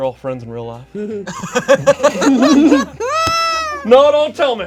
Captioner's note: group laughs